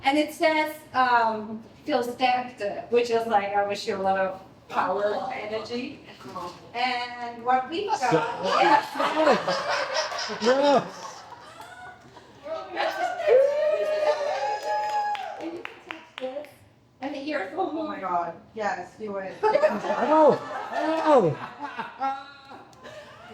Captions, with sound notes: And it says, um, Phil's dad, which is like, I wish you a lot of power and energy. And what we got. Yes. [cheering] And here. Oh my God. [laughter]